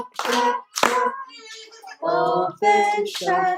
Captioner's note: baby cries